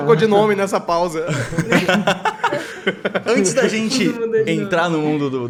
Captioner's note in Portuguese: risos